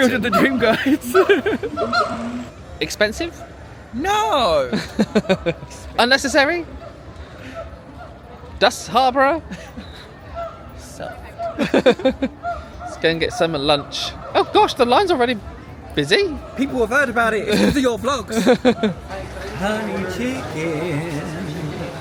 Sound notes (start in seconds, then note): 0.0 laughing; 4.6 laughs; 11.2 laughs; 18.1 laughs